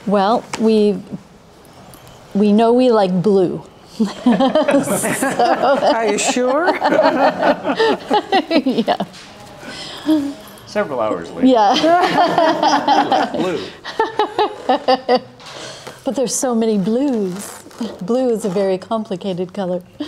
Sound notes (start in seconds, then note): 4.0 laughing; 11.7 all laughing